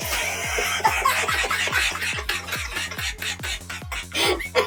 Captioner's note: full laughters